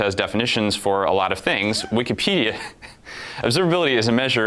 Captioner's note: both laugh